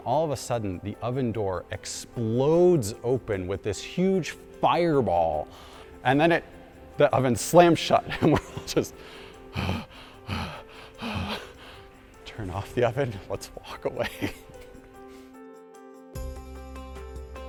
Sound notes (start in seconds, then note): 8.8 heavy breathing